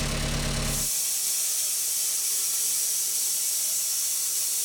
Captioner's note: machine whirring